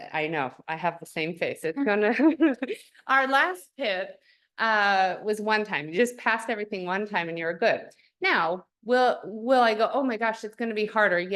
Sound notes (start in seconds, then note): 1.8 laughter